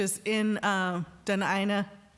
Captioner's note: speaking indigenous language